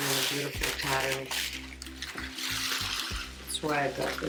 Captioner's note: rock clinking